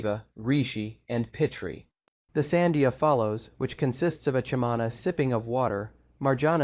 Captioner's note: sipping of water